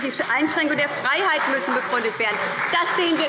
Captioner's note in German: Beifall Freie Demokraten